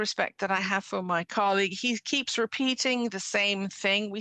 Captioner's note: speaking French